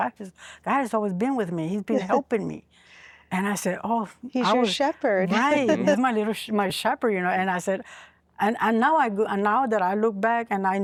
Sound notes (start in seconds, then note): 3.1 giggling